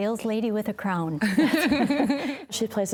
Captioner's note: laughing